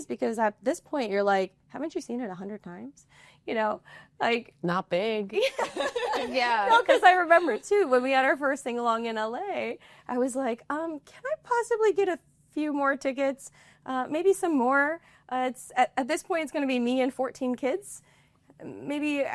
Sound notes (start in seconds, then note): 5.4 laughter